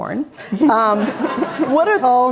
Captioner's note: all laughing